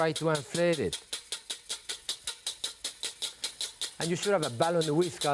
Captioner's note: whisk tapping